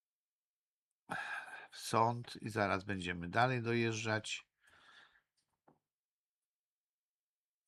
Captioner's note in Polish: westchnienie